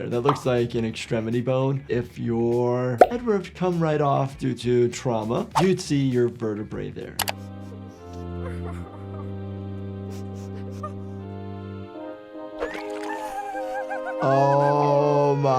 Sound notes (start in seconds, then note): 3.0 head pops; 7.3 solemn music; 7.3 Giggle's mom cries; 10.0 Giggle's mom sniffles and gasps; 12.3 triumphant music; 12.6 Giggle's body squelches